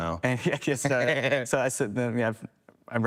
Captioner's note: people laughing